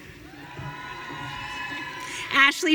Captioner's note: audience cheering